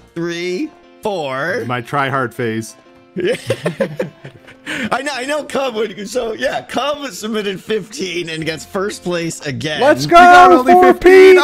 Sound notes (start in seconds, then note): 3.2 laughs; 6.0 stammers